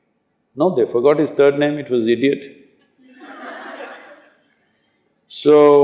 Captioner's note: laughter